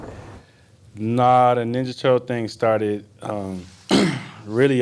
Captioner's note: clears throat